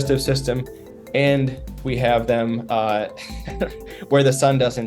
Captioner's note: chuckles